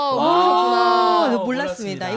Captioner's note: 환호